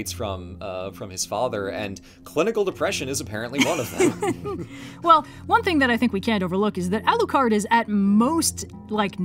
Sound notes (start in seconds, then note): 3.6 laughs